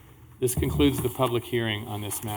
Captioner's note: gavel